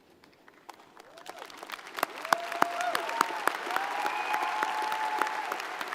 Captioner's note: audience cheers and applauds